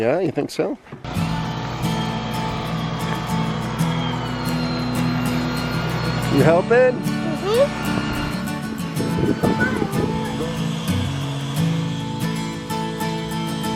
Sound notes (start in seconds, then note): 1.5 gentle guitar music; 4.8 electric sander whirs; 8.6 gentle guitar music